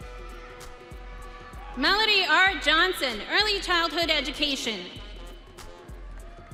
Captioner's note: audience cheering